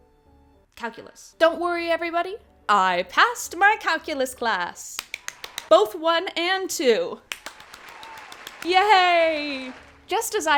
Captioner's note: applause; applause again